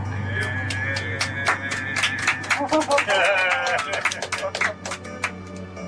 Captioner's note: applauds